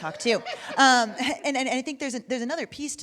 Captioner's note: laughing